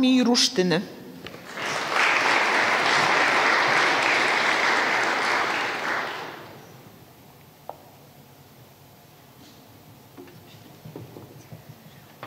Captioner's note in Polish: oklaski